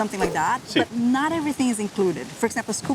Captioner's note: in Spanish